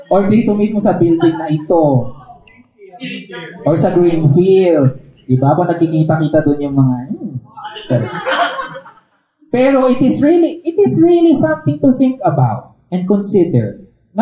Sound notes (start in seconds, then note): 7.6 laughter